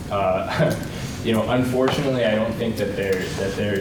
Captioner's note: chuckles